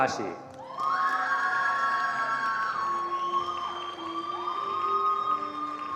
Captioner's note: attendees cheering and applauding